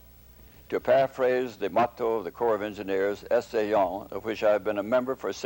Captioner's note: french